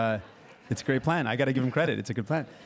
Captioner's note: crowd laughing